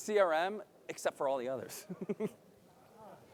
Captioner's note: laughs